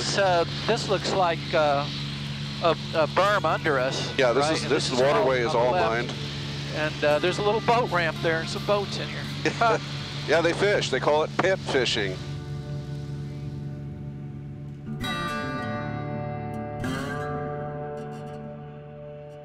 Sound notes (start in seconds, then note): 9.4 chuckling; 15.3 southern gothic music